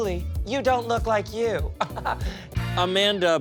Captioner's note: laughs